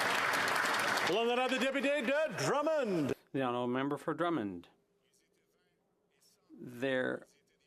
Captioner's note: some Applause